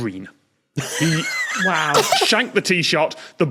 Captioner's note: laugh